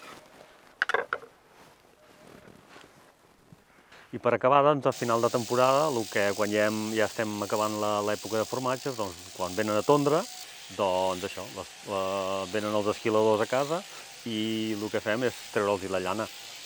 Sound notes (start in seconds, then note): 0.8 knife on wood